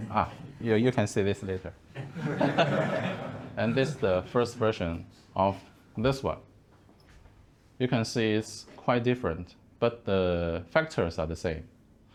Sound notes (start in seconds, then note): 2.0 laughing